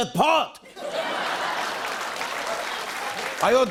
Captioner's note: laughter and applause